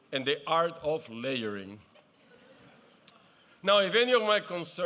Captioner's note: laughter